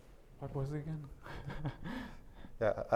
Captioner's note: laughs